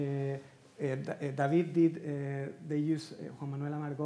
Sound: speaking Spanish

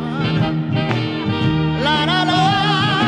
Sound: hand clap

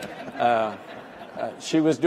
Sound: all laugh

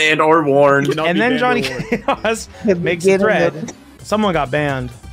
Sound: laughs

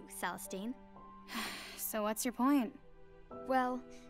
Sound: sighs

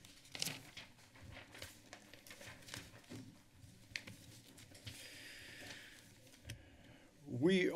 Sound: papers flipping

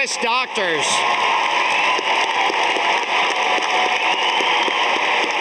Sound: audience applauding

